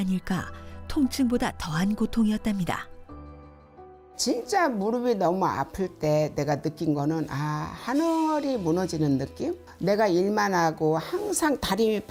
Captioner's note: voiceover